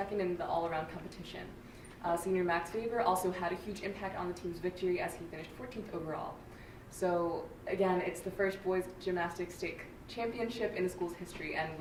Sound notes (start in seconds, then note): none